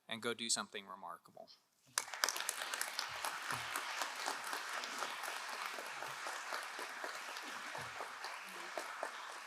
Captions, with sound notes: and go do something remarkable. (crowd applauding)